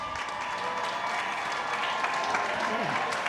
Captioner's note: cheers and applause